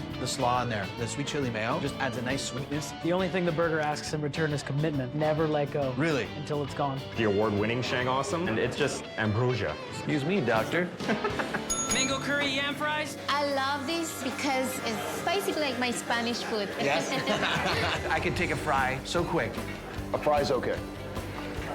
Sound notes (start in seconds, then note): 16.4 laughs